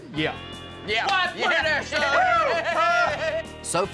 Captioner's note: high-five claps, cheers